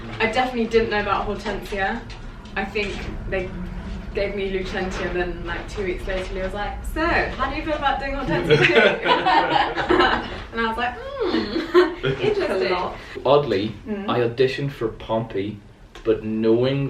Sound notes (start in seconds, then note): 8.2 laughter